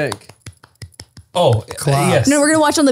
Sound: someone applauds

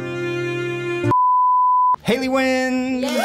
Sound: test pattern beeps

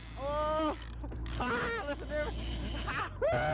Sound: laughter

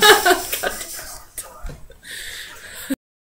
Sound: laughs

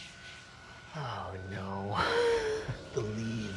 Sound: laughs

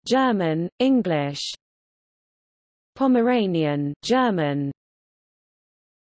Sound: German

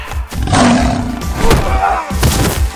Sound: growl

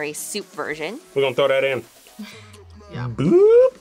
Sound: laughs

